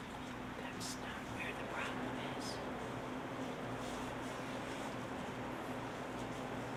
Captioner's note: audience Member whispers